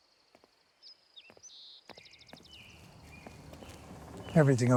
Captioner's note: birds chirping continues